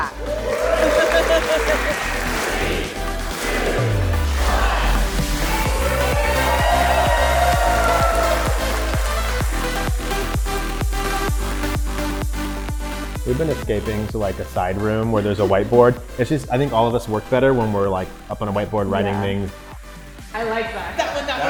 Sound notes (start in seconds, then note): 0.2 crowd cheering; 5.3 everyone cheering; 5.3 upbeat music